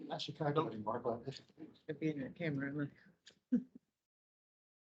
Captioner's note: indistinct chatter